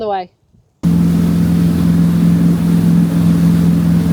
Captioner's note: engine revving